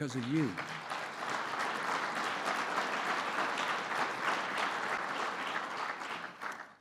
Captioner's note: applause